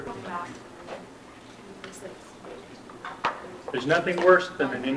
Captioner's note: scattered chatter